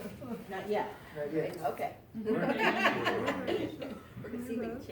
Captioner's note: random laughter